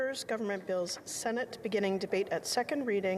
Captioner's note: speaking French